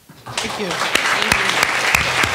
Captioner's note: attendees applauding